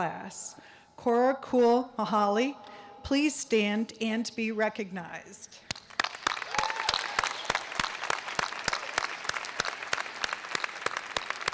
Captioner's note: cheers and applause